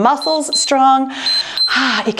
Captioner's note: timer beeps